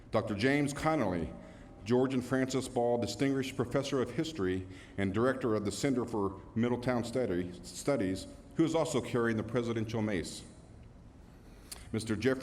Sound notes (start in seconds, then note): none